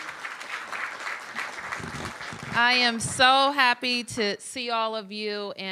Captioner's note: applause